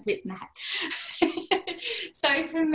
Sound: laughter

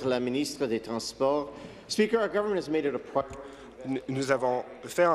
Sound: speaking in French

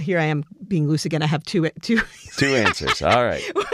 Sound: laugh

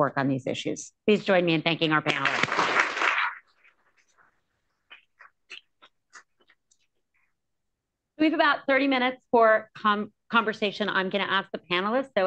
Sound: applause

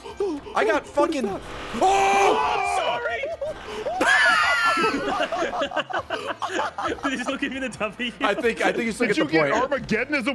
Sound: laughs

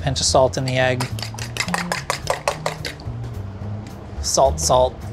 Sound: fork beating egg

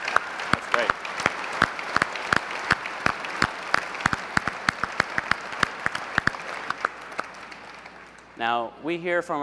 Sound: applause

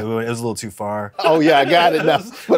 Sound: laughs

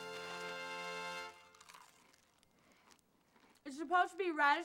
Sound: loudru cnching

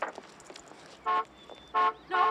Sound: honk! honk!

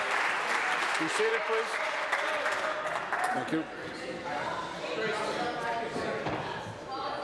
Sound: applause

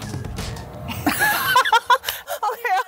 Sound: laughing

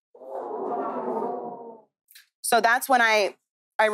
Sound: audience groans

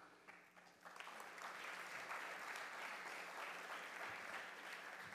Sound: audience applauding

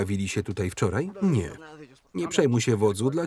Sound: speaking in Spanish

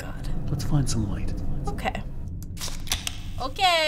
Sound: flashlight clicks

